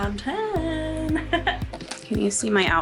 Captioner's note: laughs